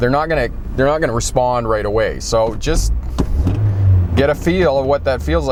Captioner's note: rev